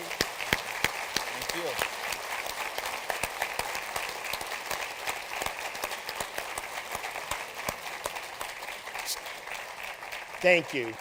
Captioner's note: applause